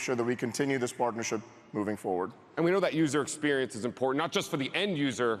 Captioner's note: none